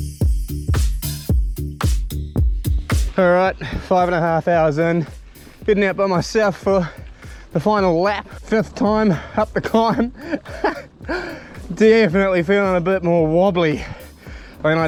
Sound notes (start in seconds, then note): 0.1 funky music; 9.1 laughs